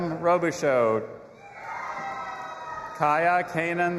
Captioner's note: audience applauding and cheering